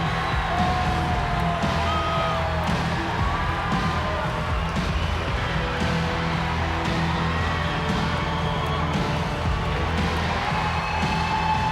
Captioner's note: applause